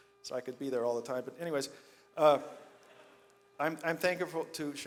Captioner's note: audience laughs